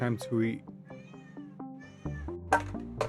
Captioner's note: hangry meows